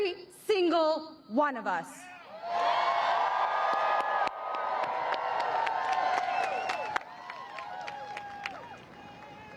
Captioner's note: applause